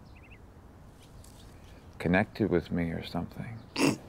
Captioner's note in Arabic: ضحكة مكتومة